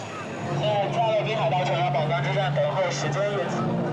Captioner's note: speaking in Chinese